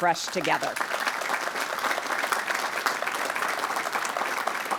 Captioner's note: audience applauding